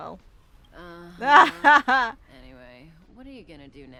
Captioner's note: laughs